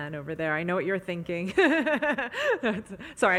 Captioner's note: laughs